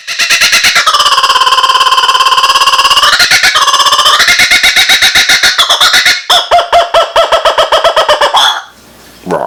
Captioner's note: kookaburra laugh